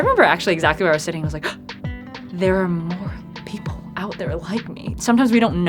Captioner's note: gasps